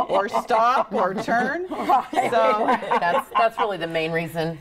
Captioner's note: group laughing